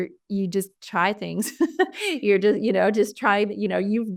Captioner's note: laughter